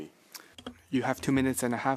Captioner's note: speaking French